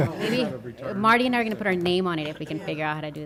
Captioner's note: laughter